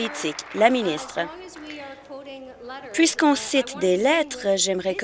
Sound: applause

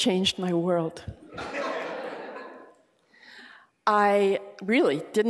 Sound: laughter

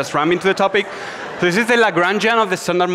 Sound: audience laughs

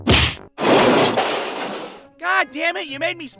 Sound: thwack!; crash

